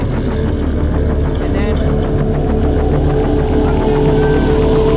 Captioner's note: motor revving